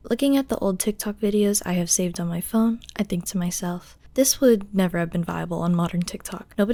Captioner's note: none